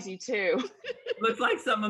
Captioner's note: laughter